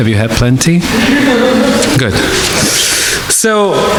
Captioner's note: audience laughing